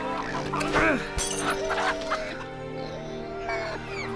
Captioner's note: grunting